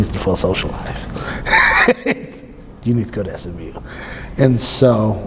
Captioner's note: laughs